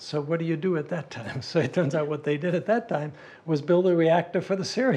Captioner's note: laugh